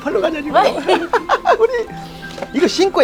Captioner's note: both laughing